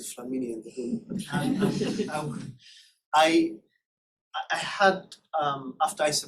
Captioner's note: laughter